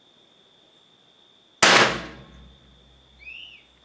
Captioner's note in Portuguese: Disparo